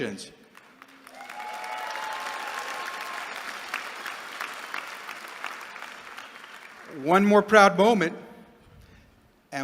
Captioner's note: applause